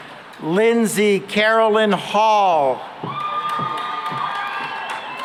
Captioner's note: cheering and applause